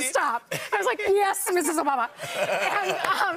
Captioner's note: laughter